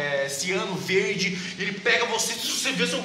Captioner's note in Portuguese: estática